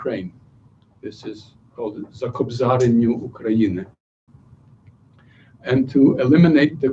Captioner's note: non-english speech